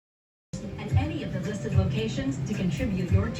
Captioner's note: on TV